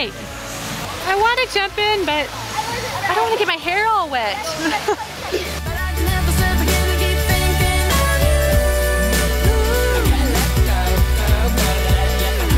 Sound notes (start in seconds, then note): 4.4 laughing